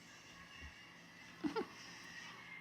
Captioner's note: chuckles